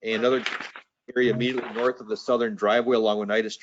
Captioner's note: papers rustling